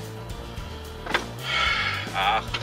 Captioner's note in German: Stöhnen